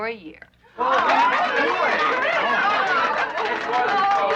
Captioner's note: cheering